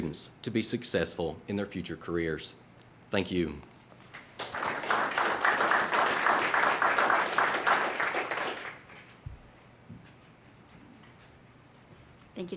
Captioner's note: applause